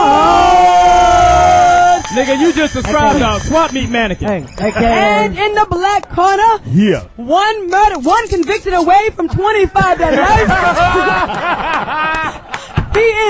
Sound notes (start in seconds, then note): 2.0 crowd cheers; 9.6 all laugh